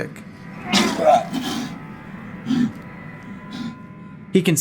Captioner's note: vomits